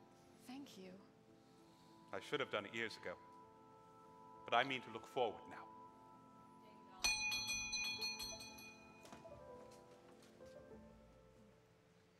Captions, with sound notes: - Thank you. - I should have done it years ago. But I mean to look forward now. (Doorbell rings)